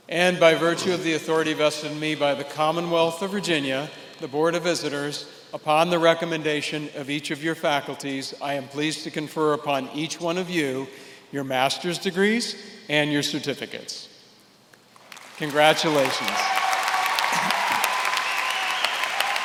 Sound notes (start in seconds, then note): 16.9 applause